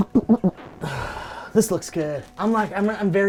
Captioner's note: low rumbling; softly grunts